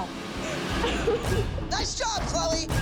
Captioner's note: crying